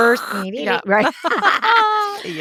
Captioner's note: both laugh